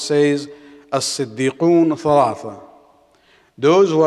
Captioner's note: Arabic